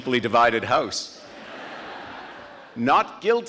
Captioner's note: audience laughing